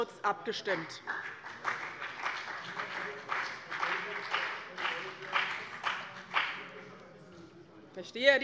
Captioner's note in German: Beifall bei dem BÜNDNIS 90/DIE GRÜNEN - Anhaltende Zurufe von der SPD